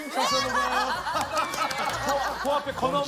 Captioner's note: seal clap